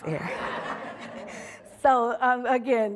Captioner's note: audience laughing